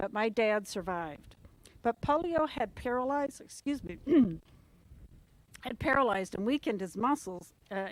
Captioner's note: cough